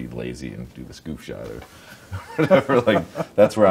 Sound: laughs

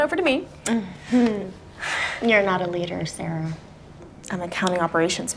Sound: chuckles

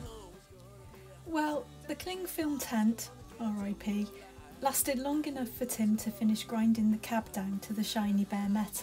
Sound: voiceover

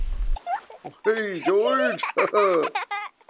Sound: laughing

